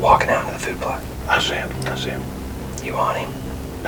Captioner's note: whispering